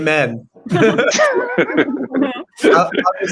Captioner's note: group laughing